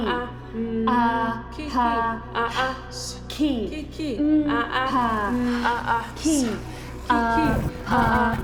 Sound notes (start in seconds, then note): 2.7 chanting continues; 2.7 static rustling